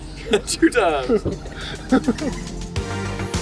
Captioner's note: laughs; chuckles; upbeat music